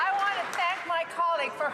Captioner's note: some Applause